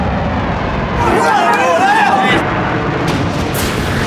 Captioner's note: cheering